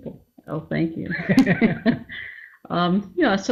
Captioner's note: both laugh